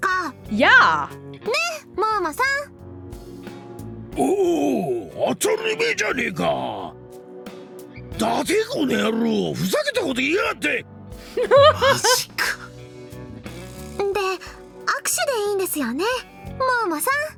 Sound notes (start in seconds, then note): 11.3 chuckles